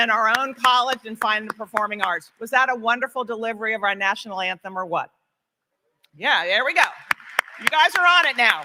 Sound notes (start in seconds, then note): 6.7 applause